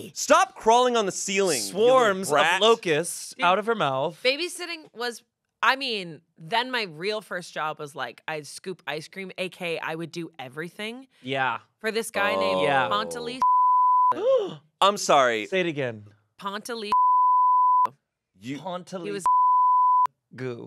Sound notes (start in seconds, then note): 13.3 beep; 14.2 gasps; 16.9 beep